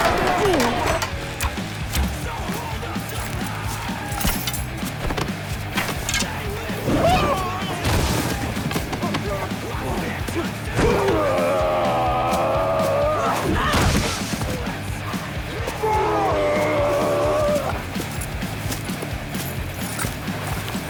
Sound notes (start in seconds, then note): 6.5 Archer Yells; 15.4 Leopold Roars